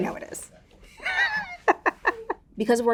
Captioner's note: Raven-Symone laughing